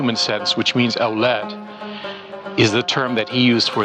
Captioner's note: speaks Arabic